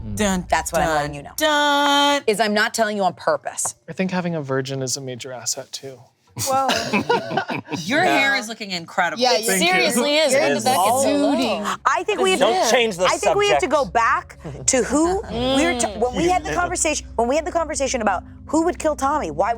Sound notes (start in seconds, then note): 6.4 group laughing; 9.2 group chattering